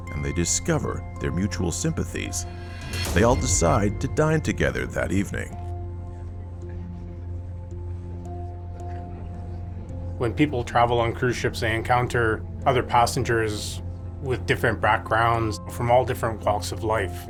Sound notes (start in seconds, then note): 6.8 pensive music; 8.5 guests chattering faintly